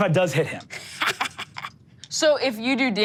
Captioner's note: Sofie laughs